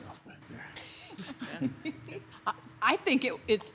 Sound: council members laugh

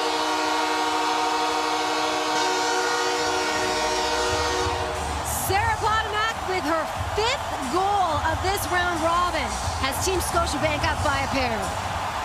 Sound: horn

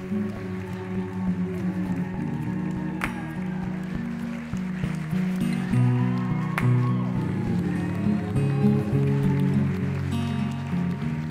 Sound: applause

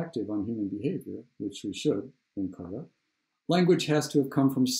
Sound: murmurs

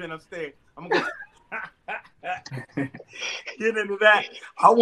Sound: laughing

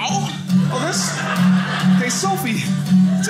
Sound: audience laughing

